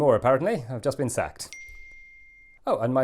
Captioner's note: ping